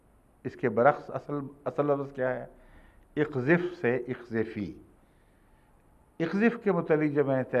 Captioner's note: Arabic